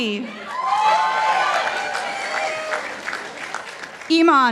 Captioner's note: participants applauding